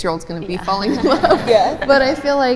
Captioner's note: laughs